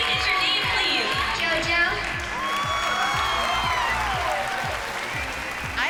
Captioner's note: cheering